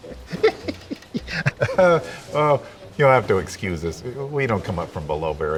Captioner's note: laughing